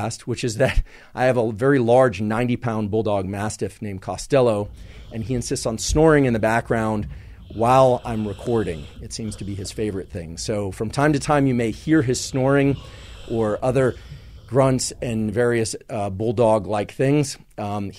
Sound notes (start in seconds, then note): 5.8 Costello snoring